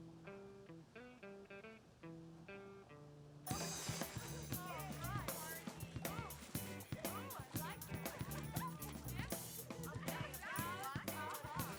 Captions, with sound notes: (catchy guitar music) (women talking) - Oh, I like that! (women talking)